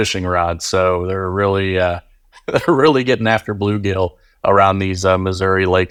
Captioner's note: laughing